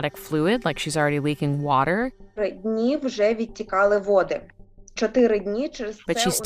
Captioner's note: speaking Ukrainian